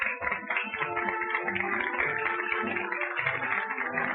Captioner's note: applause continues